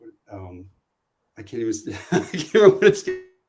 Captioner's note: laughs